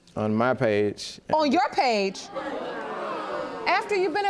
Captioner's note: audience gasping